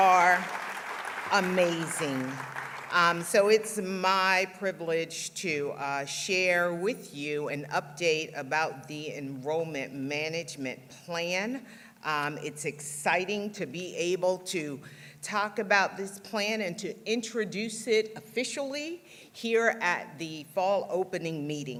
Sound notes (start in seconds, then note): 2.3 applause